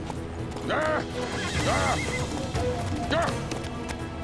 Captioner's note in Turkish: At kişneme sesi